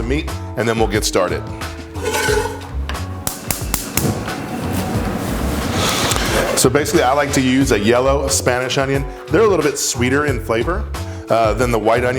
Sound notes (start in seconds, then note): 1.7 pan scrapes; 3.8 stove click